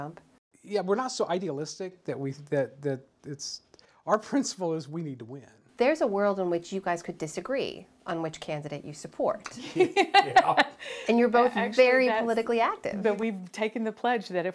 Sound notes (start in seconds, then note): 9.6 laughter